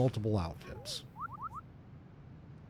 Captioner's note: whistling